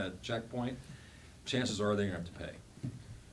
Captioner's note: none